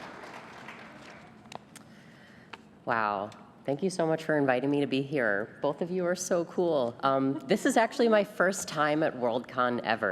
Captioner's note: cheers and applause